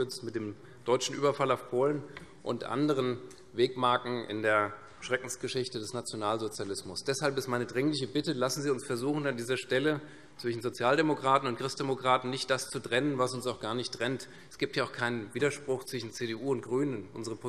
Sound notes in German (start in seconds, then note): none